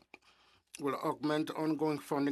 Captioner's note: speaking in French